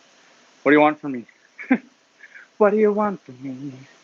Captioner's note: laughs